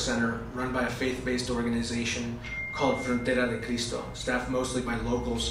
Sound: spanish

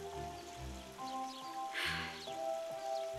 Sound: sighing

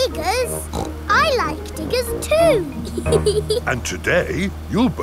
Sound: snorts; laughs

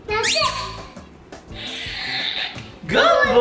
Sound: squeaking toy; balloon sounds

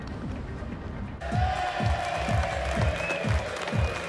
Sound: cheering

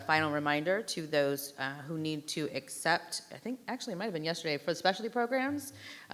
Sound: none

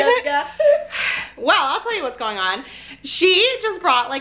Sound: sighs

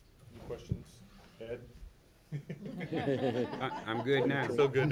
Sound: laughing

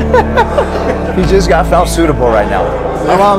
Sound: laughs

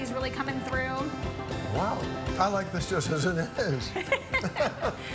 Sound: both laugh

